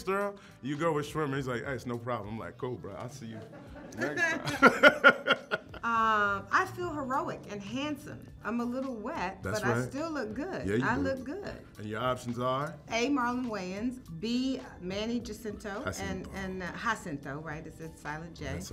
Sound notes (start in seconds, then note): 3.3 Sterling laughs